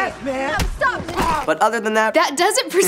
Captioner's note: crunch